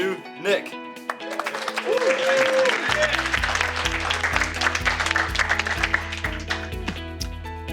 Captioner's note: applause and cheering